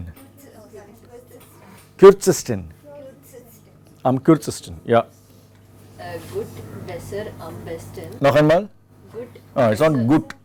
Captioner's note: student reads